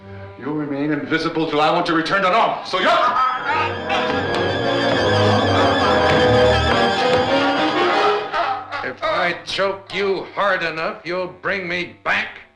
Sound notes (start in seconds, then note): 2.9 dramatic music; 3.1 groans